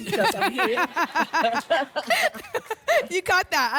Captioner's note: laughter